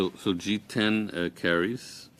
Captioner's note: speaking French